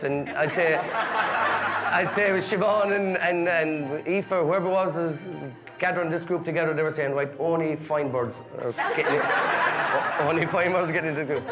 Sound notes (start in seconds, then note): 2.0 guests laughing; 8.7 guests laughing